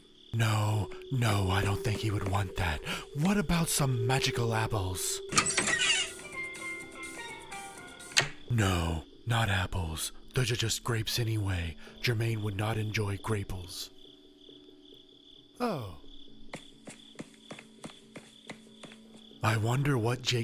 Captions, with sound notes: No, no I don't think he would want that. What about some magical apples? [ cabinet door opens with a distinct rusty hinge ] 𝄞 STEEL DRUM LIMBO LIMBO LIMBO 𝄞 No, not apples. Those are just grapes anyway. Jermaine would not enjoy graples. Oh!